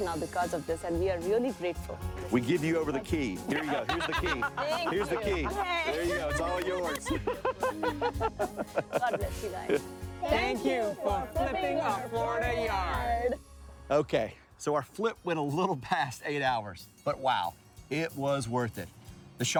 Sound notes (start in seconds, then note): 6.9 people laughing